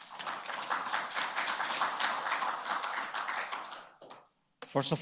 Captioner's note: attendees applauding